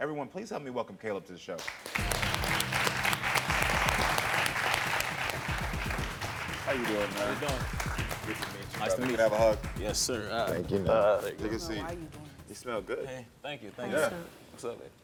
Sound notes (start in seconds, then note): 1.6 audience clapping; 1.9 tense music